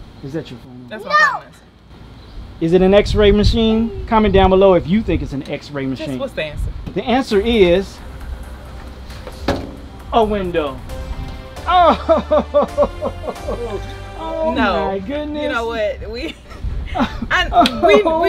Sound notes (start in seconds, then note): 11.7 laughs